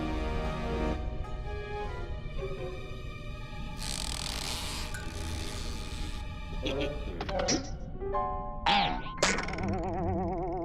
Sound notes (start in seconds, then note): 3.7 creaking; 8.6 boink; 8.6 boing